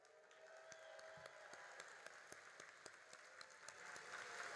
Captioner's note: all applauding